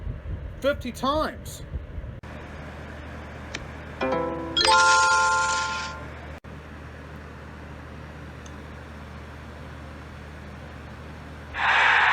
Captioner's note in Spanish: Se reproducen los efectos de sonido de Solitaire Tourist